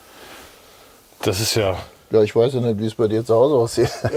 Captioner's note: laughs